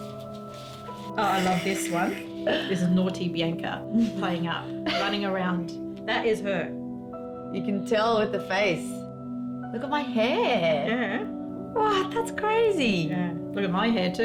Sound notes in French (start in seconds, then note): 1.2 ricanant